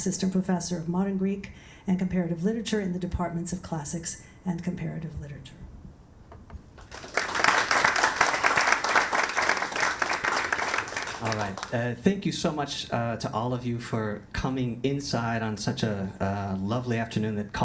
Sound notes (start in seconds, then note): 6.7 audience applauds